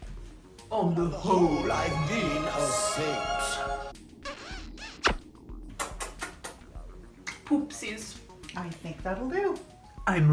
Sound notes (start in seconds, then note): 5.7 kiss; 5.7 kisses